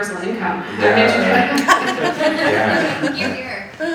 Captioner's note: all laughing